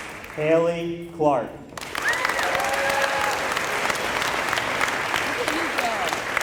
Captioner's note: applause